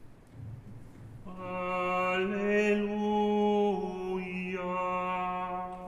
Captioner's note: chanting